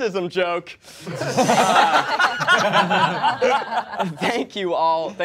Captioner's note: all laughing